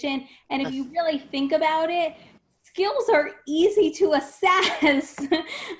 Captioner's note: laughs